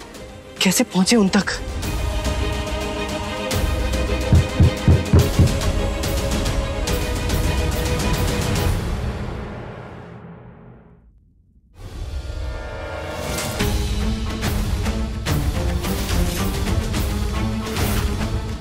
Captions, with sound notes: How do I reach him? [soft knocking] [intense music]